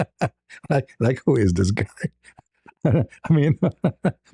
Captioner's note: ketawa